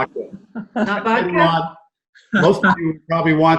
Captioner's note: laughing